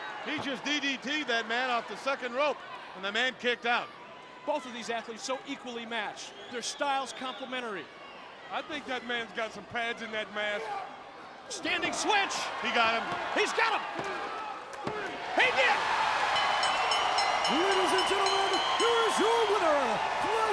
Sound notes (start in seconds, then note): 16.2 bell rings; 16.4 audience cheering